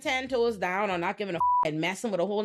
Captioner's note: beep